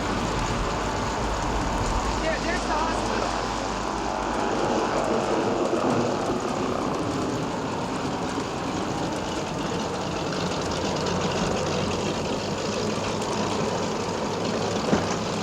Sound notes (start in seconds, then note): 3.9 engine roaring; 3.9 wind howling